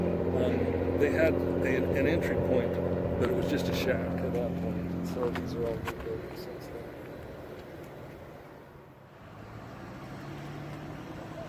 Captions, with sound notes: …and they had an entry point… …but, it was just a shack at that point. So these are all new buildings. [Truck Noise]